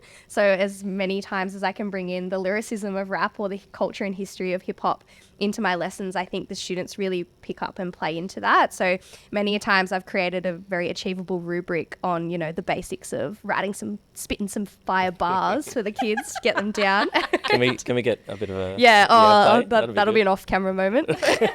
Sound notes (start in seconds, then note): 17.3 laughing